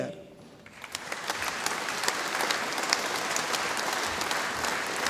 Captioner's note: audience applauding